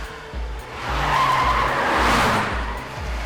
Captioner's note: tyres screeching